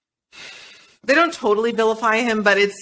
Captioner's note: sighs